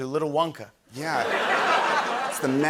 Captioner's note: laughter